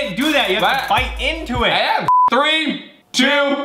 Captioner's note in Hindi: बीप